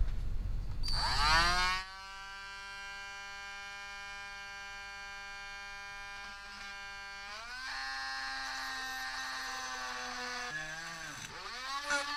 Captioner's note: drilling